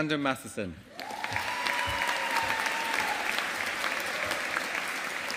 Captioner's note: audience applauding